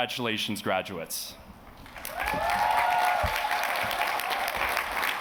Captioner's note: cheers and applause